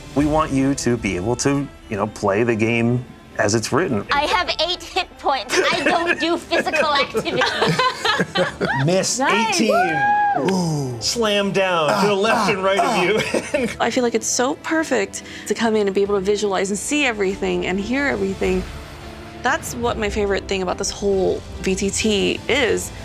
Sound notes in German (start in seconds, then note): 7.7 Gruppe lacht; 11.0 jubelt